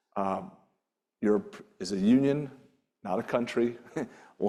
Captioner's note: chuckles